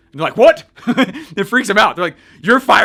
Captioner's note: laughs